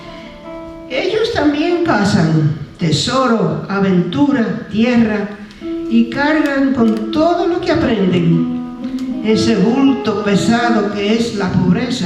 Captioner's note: speaking spanish